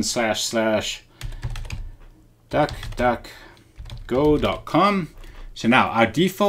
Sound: types on keyboard

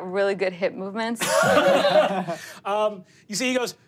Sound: laughing

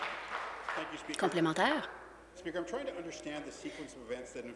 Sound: applause

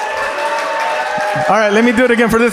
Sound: audience applauds

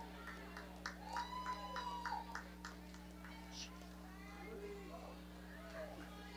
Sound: audience cheering and clapping

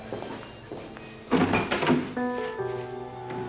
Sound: door opening

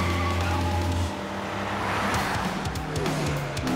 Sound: brakes squeal; engines roar

